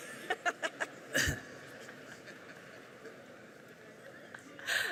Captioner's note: laughing